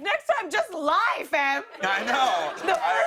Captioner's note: laughter